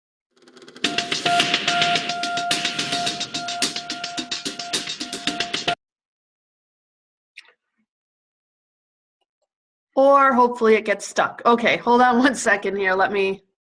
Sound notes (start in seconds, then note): 0.0 silence; 6.1 silence